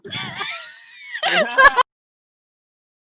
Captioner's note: wheezing and laughing